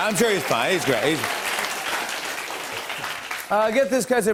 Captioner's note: applause